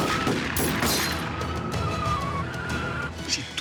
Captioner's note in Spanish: chirrido de neumáticos